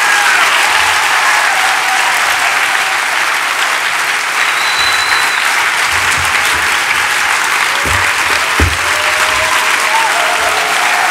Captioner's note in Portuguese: Aplausos e gritos de celebração